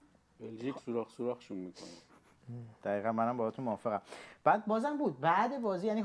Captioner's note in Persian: صدای خرناس